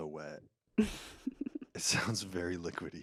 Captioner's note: laughs